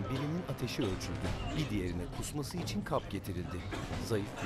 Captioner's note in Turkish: Öksürük sesleri